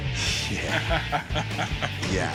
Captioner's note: laughter